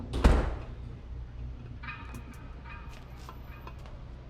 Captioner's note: door slamming